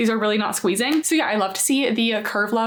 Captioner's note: waistband snapping